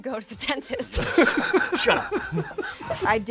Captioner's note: laughter